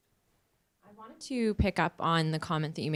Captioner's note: voiceover